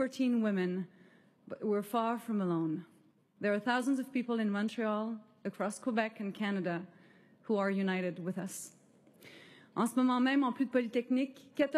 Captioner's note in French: voix de l'interprète